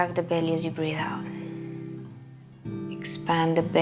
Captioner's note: exhaling